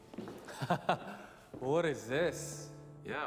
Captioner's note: chuckles